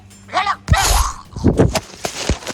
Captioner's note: groaning